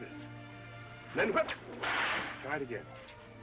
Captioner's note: cracking whip